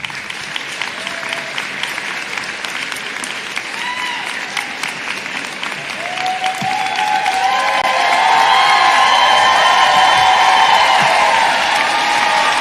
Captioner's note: applause